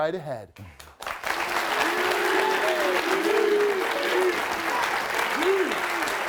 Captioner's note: audience clapping and cheering